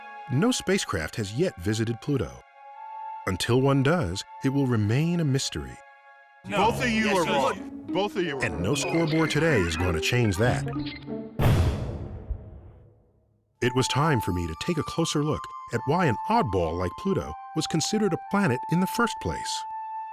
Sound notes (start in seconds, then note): 11.4 explosion